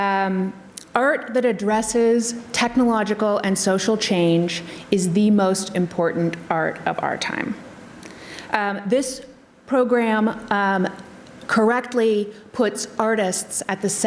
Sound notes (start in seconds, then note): none